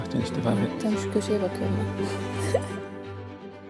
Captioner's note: laughter